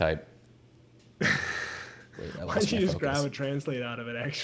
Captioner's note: laughs